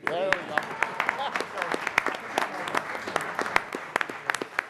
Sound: applause

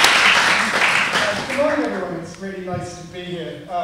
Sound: applause

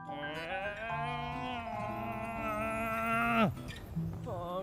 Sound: whining

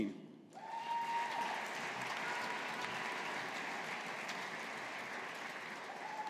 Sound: audience applauding

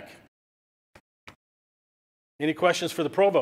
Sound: silence

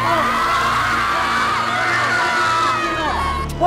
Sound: cheering

